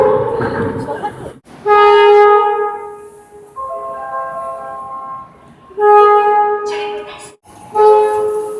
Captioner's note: air Horn; air Horn